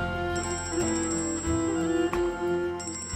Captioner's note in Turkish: Telefon çalıyor